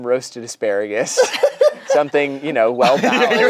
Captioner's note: laughs